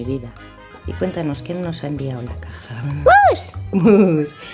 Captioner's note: giggle; giggles